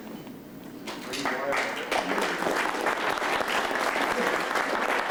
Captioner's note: applause